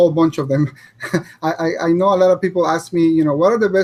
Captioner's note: chuckles